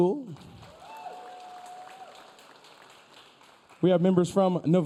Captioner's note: audience cheering